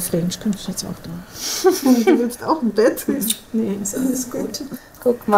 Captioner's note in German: lachend